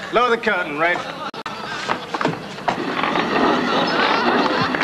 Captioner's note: audience laughing in the background; strong applause